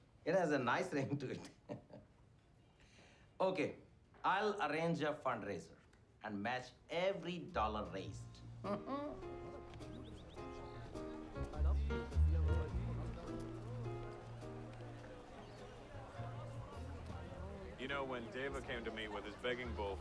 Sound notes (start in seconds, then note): 1.0 laughing; 8.6 laughing; 9.0 jazz music